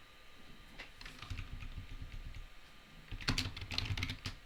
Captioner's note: keys tapping